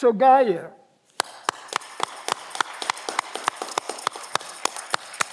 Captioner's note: audience clapping